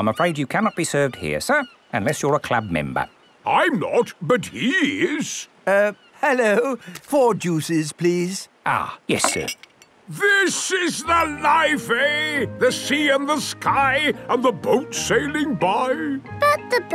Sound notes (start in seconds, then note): none